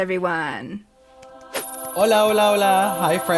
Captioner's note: magical sound effect